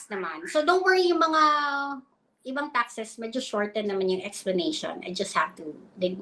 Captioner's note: speaks in Filipino